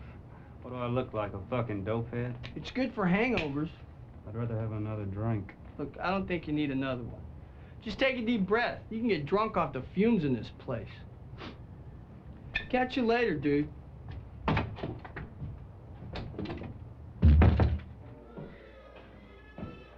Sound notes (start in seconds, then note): 11.3 sniffs; 17.2 door closes